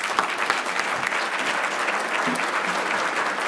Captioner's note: applause